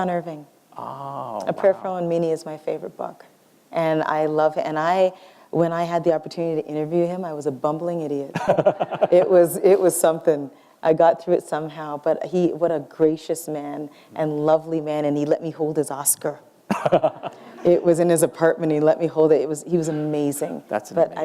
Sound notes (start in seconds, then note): 8.3 laughter; 16.7 laughter